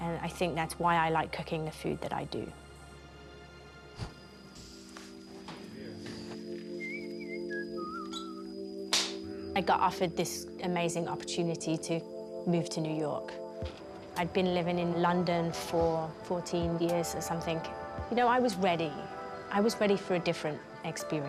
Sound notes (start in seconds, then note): 5.8 whistling